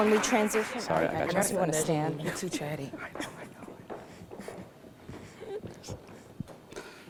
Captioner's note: applause